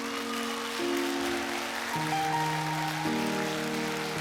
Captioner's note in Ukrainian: оплески